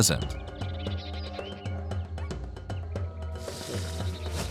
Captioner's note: soft music; birds calling